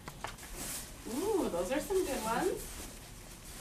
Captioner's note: voiceover